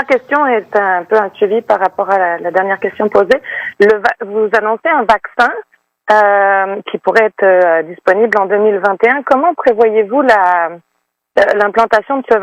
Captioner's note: speaking French